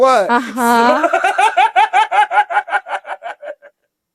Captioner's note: Ron laughing